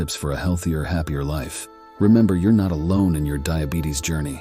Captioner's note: voiceover